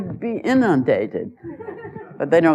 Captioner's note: laughter